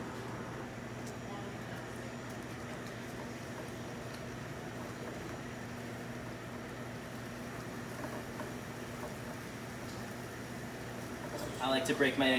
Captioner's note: egg squelches and slides in the pan